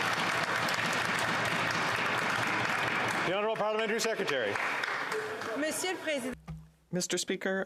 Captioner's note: applause